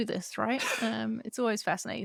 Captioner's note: chuckles